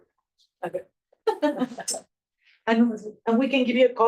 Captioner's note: laughs